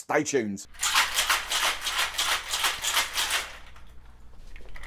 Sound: ice shakes

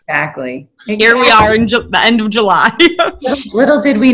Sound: laughing

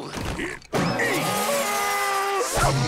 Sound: screaming

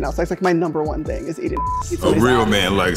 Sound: beep

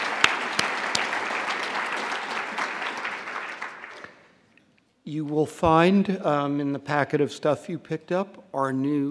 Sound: applause

